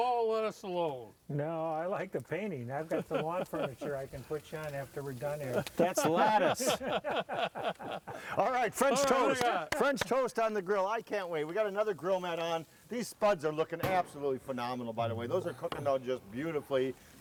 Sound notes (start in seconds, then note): 5.6 laughing